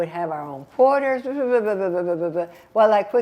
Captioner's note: mumbling